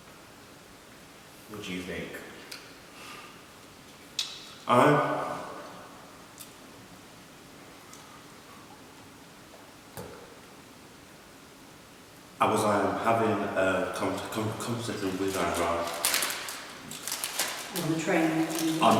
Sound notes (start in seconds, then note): 6.7 goes silent